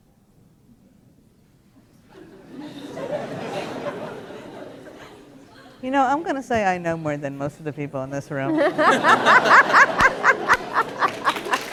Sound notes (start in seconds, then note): 2.1 laughter; 8.4 laughter